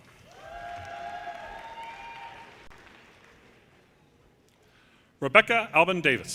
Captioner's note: audience cheers and applause